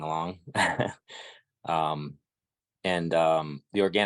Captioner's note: laughing